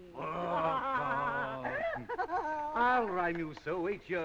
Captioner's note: laughing